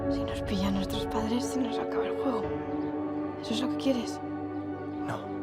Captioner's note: birds chirping; speaking in foreign language